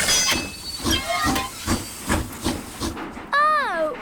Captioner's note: train chugs